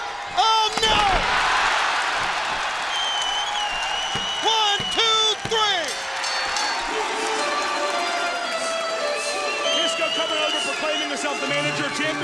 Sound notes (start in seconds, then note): 5.5 crowd cheering; 9.1 bell ringing